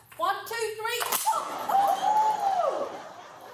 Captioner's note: both yell